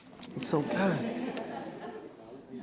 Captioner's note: audience laughter